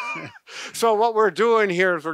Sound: laughing

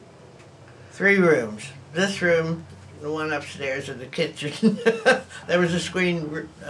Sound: laughs

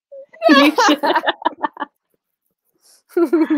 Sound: laughing

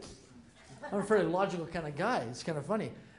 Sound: laughter

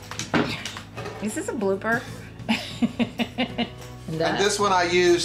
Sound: laughing

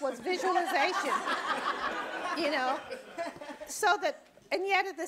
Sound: audience laughing

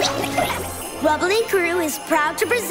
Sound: oinking

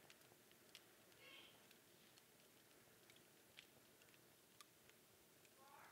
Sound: distant chattering

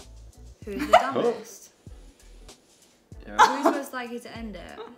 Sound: giggles

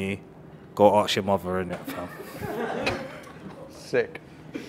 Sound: team laughing drowns out speech

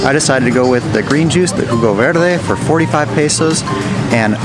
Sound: speaking in foreign language

